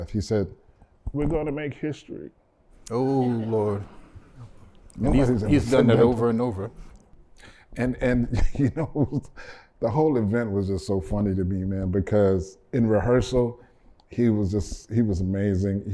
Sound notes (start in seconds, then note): 8.2 laughter